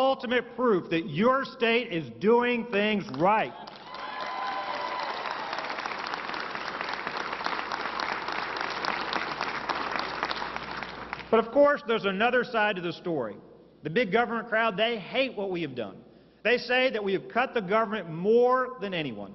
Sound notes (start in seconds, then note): 9.2 applause